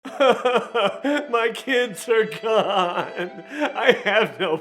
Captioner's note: crying